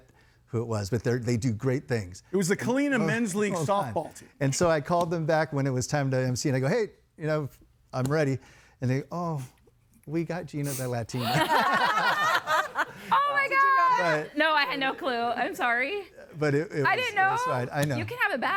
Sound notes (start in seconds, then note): 11.1 guests laughing